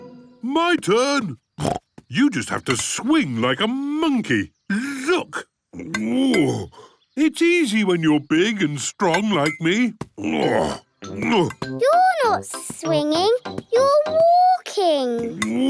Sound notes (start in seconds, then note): 1.6 snorts; 5.7 grunts; 10.1 grunts; 15.5 laughs